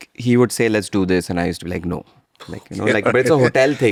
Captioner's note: laughs